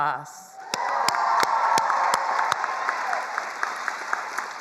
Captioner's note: attendees applauding